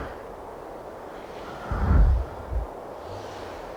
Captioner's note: wind whooshes